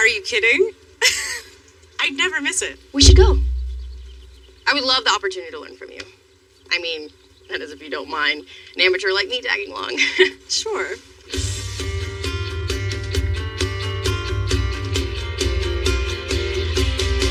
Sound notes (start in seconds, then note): 0.1 laughghs; 10.0 giggles